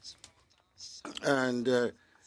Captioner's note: speaking French